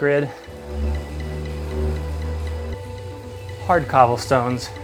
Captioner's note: trainer whirs